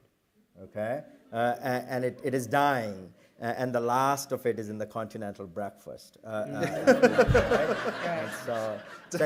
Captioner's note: laughter